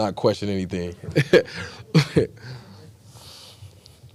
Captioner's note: laughs